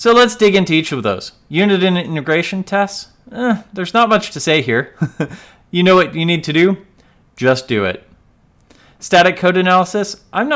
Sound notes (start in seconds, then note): 4.9 laughs